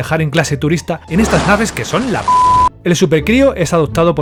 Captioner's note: beep